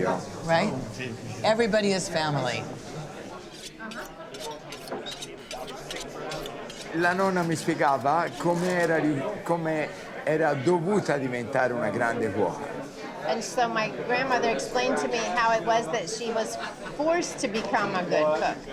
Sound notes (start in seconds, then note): 3.4 knives sharpening; 6.6 Dario speaking Italian